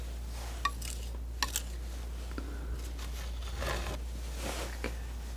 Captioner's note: scratching